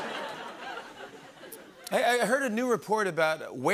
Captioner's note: laughter; normal voice